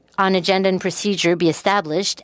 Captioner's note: speaking French